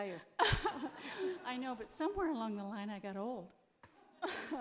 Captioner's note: laughs